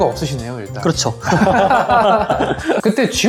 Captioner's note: laughs